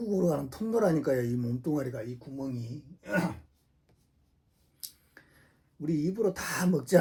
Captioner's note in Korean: 목을 가다듬음